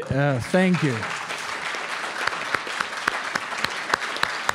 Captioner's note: audience applauding